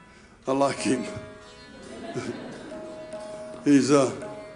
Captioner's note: audience laughing